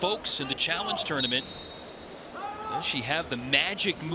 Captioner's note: whistle blows